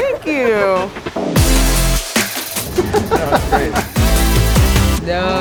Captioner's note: upbeat synth music; laughing